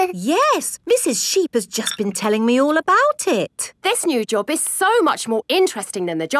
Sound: none

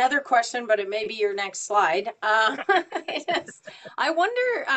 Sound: laughs

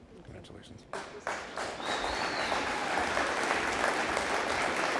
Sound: audience applauding

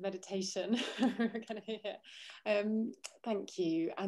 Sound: chuckles

